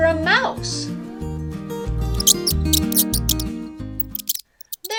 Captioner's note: mouse squeaks